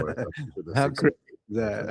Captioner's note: laughing